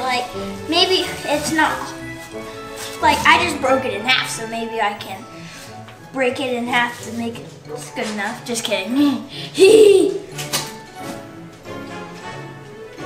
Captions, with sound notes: Maybe it's not... I just broke it in half, so maybe I can break it in half to make it... This is good enough, just kidding (giggling)